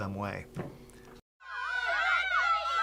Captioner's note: screaming